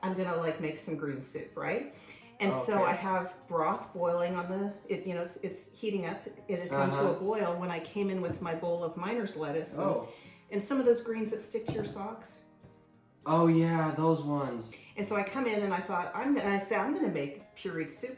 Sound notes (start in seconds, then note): none